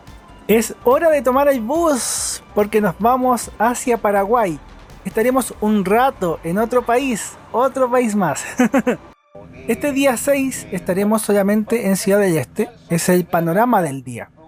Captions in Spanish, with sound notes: ¡es hora de tomar el bus! porque nos vamos hacia 'Paraguay' estaremos un rato en otro país, otro país más (risas) este día 6 estaremos solamente en 'Ciudad del Este', es el panorama del día